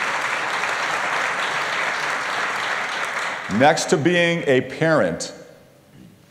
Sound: applause

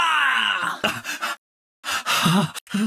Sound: sobbing

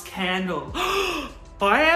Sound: gasps

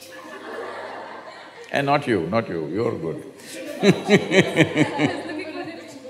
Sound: laughter; laughter

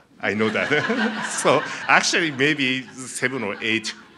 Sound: laughing

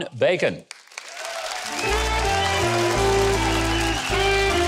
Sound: audience applauding; audience cheering; jazz music

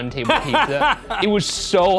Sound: laughing

